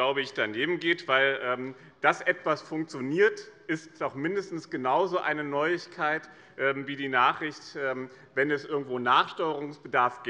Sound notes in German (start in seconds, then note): none